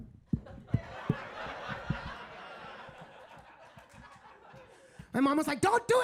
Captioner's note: microphone clattering; audience laughing